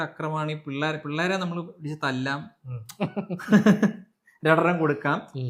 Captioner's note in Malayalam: പൊട്ടിച്ചിരി